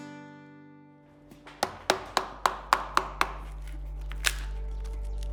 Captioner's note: hammer pounds